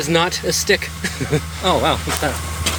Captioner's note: giggle